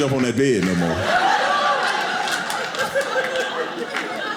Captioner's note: audience laughing